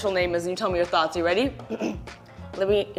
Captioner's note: clears throat